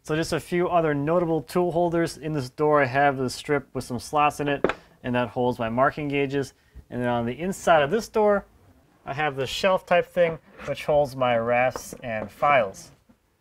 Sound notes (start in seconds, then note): none